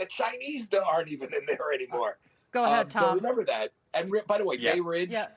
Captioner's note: laughter